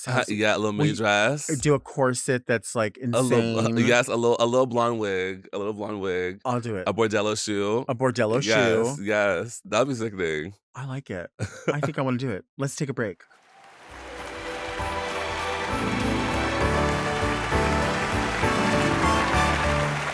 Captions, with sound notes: - Yeah, a little mini dress. - Do a corset that's like, insane. - Yes, a little blonde wig. A little blonde wig. - I'll do it. - A Bordello shoe. - A Bordello shoe. - Yes, yes. That would be sickening. - I like it. I think I wanna do it. Let's take a break. (audience applauding) (jaunty music)